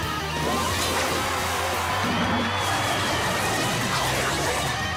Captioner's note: cheering